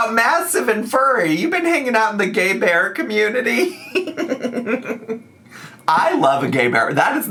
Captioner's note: laughs